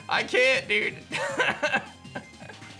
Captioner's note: laughs